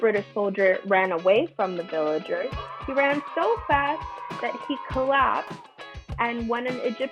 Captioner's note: children cheer